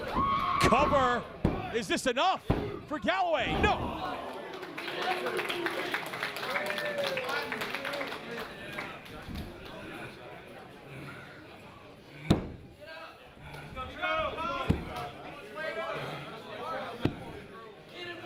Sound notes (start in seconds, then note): 4.2 applause